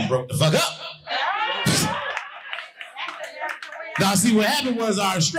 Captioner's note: audience laughing